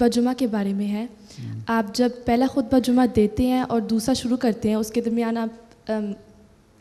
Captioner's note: Arabic